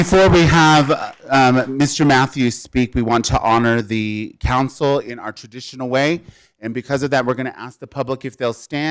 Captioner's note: applause